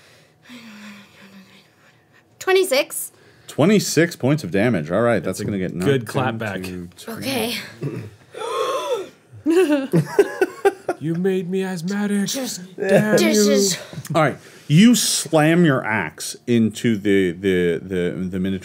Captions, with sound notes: 26. - 26 points of damage. All right, that's gonna get one, two-- - Good comeback. - Okay. (wheezes) (laughing) - You made me asthmatic, damn you! - All right, you slam your ax into the Minotaur's